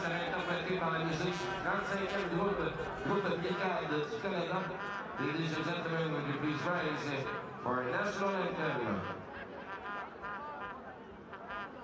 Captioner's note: speaking French